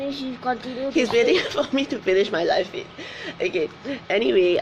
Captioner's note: laughs